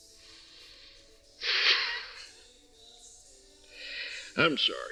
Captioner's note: Cyrus Laughing